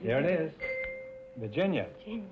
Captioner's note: chime rings